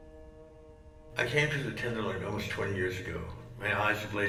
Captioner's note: voiceover